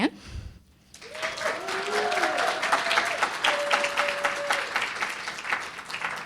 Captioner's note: audience cheering and applauding